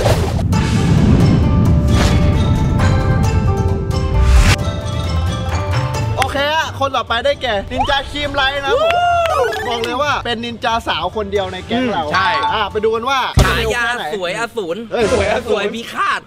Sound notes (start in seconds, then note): 0.2 japanese instrument playing; 8.6 cheering